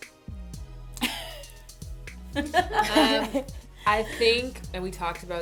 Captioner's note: laughter